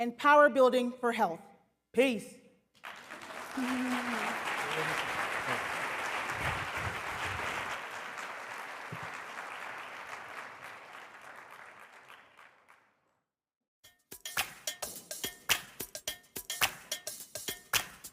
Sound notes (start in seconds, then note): 2.7 applause